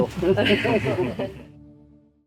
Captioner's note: laughter